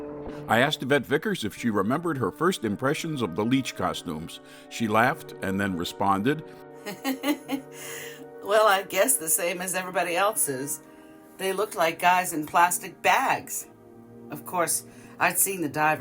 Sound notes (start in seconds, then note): 6.8 laughs